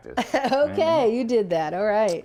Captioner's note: laughs